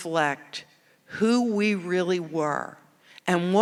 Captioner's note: none